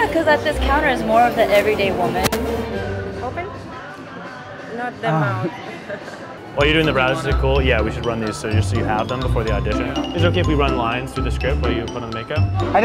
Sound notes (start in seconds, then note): 4.9 laughs